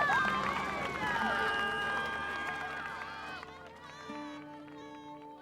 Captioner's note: cheering